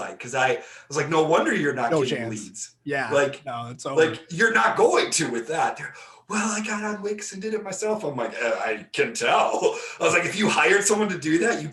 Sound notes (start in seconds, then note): 9.5 laughing